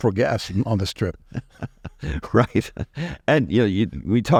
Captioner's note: chuckle